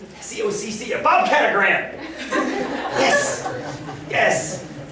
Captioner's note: laughter